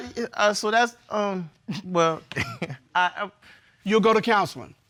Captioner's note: chuckles